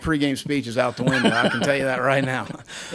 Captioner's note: laughing